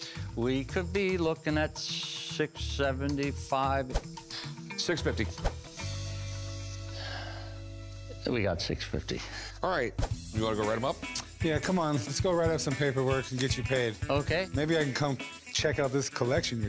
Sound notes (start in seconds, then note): 6.8 sighing